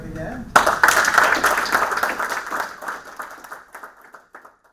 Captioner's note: applause